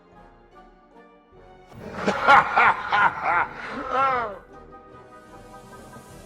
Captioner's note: evil laughter